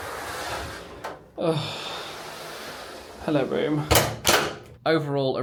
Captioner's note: sighs